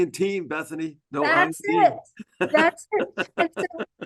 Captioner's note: laugh